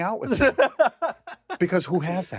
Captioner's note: laughs